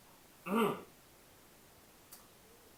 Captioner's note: clears throat